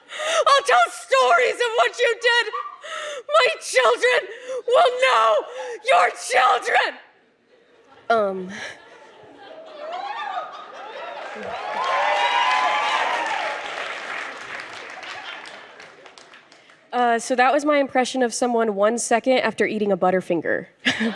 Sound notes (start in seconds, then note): 8.9 laughter; 9.8 audience cheers